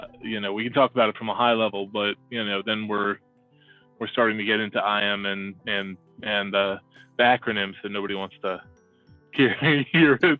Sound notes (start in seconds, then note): 9.4 laughs